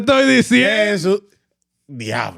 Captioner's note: speaking Spanish